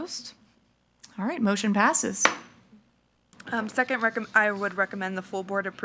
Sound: gavel thuds

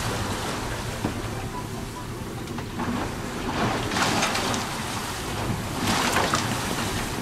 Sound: none

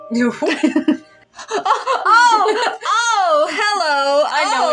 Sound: laugh; excitedly

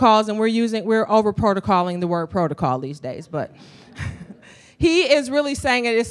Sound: laughter

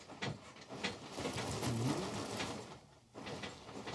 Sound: rustling

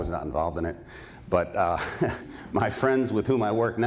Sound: laughs

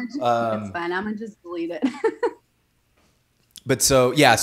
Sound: laughs

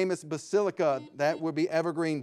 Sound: buzzer ringing

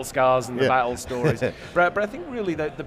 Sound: chuckles

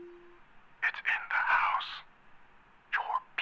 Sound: whispering

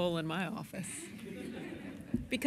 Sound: laughter

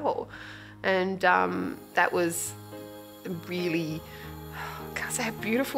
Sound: sighs

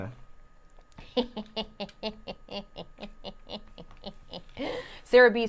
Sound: laughs

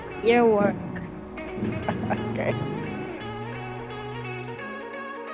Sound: laughs

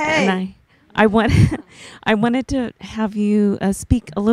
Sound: voiceover; laughs

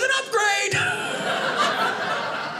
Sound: audience laughing

